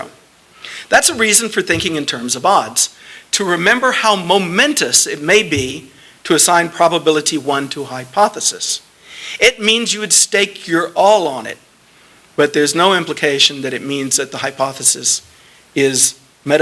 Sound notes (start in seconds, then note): none